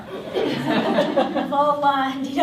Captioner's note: laughter